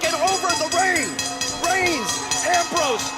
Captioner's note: bell ringing